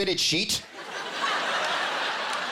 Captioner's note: laughter